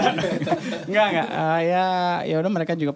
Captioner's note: laughs